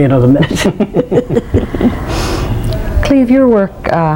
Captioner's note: laughs